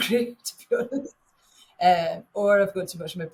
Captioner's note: chuckles